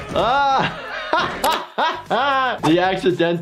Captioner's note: laughing